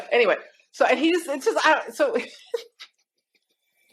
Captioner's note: laughs